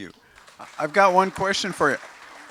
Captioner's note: applause